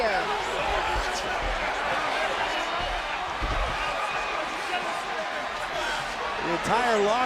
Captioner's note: applause